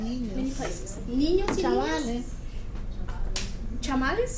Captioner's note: speaking foreign Language